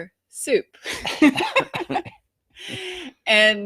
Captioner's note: both laughing